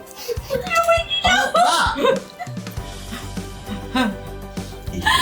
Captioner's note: laughing